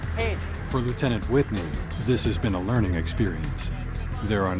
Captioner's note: voiceover